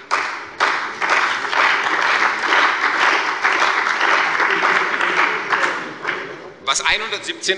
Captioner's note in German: Beifall bei der CDU und dem BÜNDNIS 90/DIE GRÜNEN